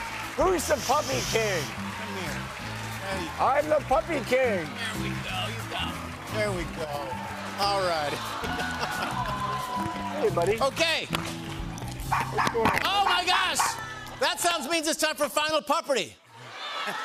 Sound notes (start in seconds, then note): 8.4 laughs; 13.5 dog barking